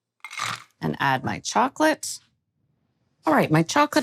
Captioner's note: chocolate tumbling